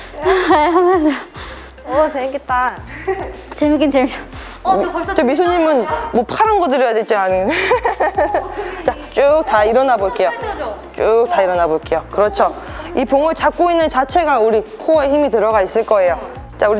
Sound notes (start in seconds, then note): 4.2 gasping for breath